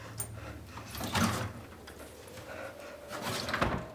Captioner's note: door opening